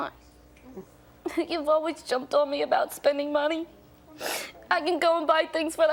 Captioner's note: sniffs